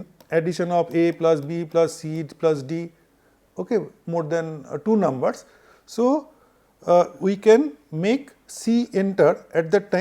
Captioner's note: Clock